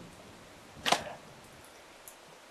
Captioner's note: thump; rain trickling in distance